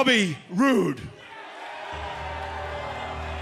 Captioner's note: crowd cheering